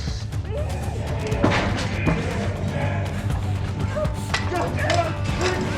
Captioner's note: shouting